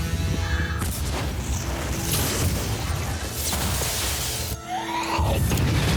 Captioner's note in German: mehrere Explosionen